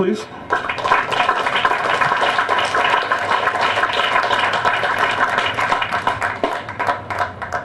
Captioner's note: applause